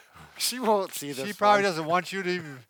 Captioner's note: laughs